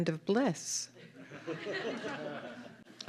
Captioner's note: laughter